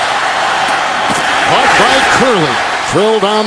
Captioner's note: crowd yelling